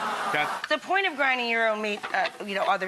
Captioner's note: audience gasping